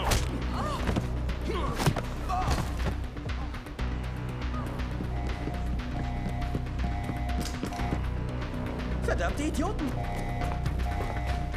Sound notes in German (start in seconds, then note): 4.8 alarm plärrt los